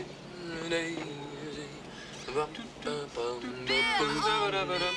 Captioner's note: humming